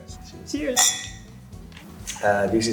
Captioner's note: glasses clinging